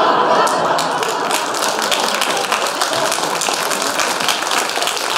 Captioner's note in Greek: χειροκροτημα